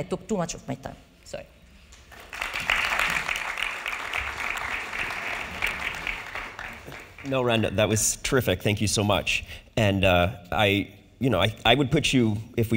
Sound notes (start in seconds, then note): 2.0 audience applauding